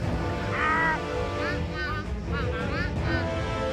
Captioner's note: Emperor Quack quacks loudly